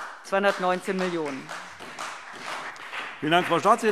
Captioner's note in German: Beifall CDU und BÜNDNIS 90/DIE GRÜNEN